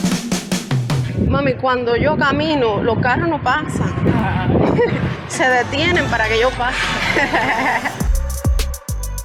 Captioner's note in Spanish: Risas